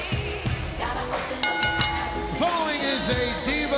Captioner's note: bell dings